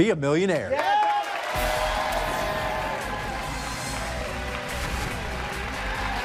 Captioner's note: cheers and applause; dramatic music